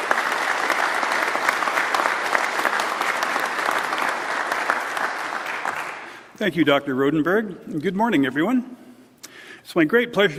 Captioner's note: applause